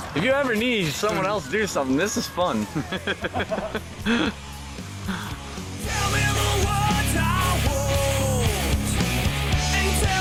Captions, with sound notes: If you ever need someone else to do something - this is fun. (Laughing)